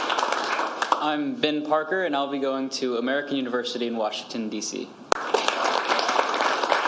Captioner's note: applause